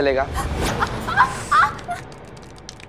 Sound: yelling

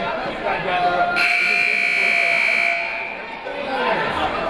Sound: buzzer ringing; people talking in the crowd

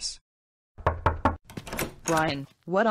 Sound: knocking on Door; door Opens

